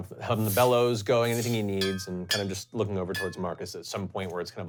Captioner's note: puff of air; hammer on metal